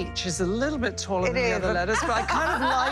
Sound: laughter

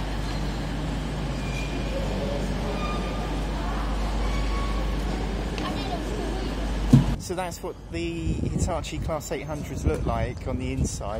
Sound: train noise

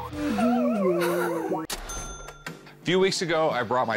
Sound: cash register ringing

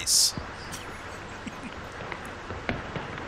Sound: Jim chuckles lightly

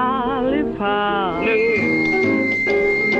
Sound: mic screeches; upbeat classic music

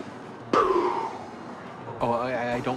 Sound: air blowing

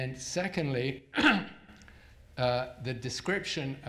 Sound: clears throat

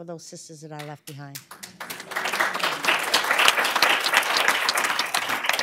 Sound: applause

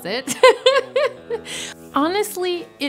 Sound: laughs

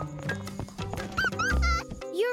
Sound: laughing

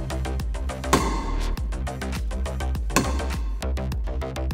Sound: metal striking metal

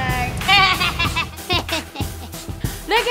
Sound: laughing

